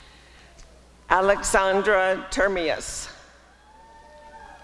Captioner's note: applause and cheering